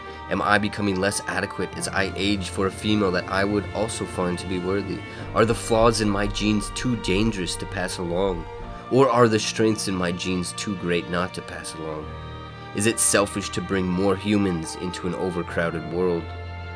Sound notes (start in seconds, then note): none